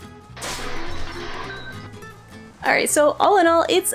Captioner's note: overly exaggerated glass breaking sound effect